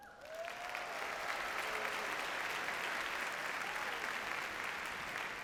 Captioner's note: audience cheers and applauds